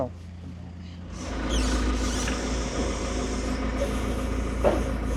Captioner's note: engine rumbling